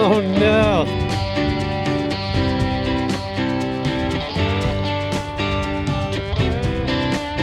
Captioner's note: wind blowing